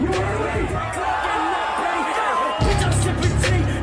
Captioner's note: shouting